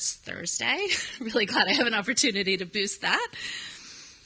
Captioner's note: laughs